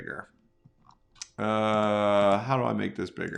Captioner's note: groaning